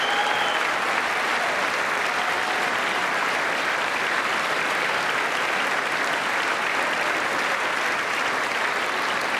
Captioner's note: applause